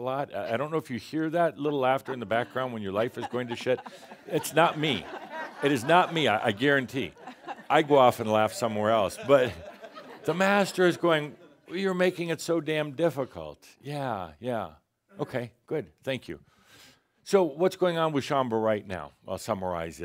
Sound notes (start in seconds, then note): 2.9 chuckles; 4.9 audience laughter